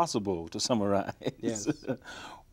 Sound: chuckles

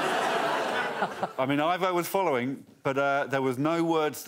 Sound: whispers

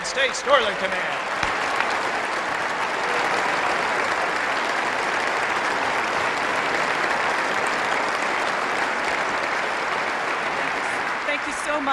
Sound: applause

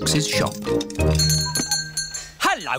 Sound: bell ringing

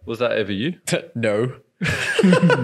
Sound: laughing

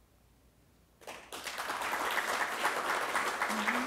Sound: applause

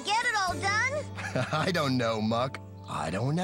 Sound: laughing

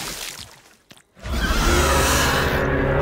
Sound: screeching

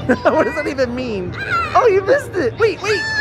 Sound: yelling

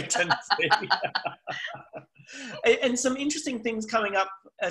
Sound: laughs

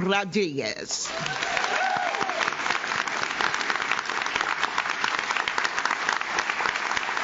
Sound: audience cheers; audience claps

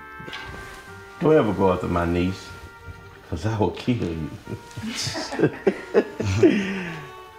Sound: laughter, chukling

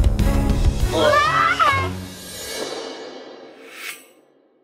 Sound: screaming

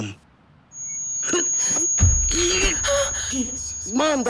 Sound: loud ringing

